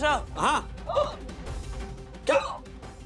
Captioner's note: gasps